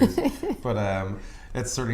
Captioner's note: laughter